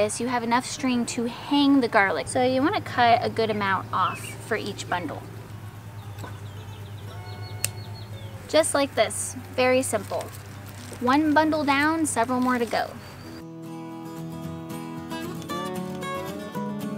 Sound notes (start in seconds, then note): 7.6 scissors snipping; 13.6 folksy guitar music